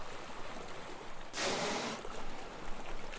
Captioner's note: blow hole hisses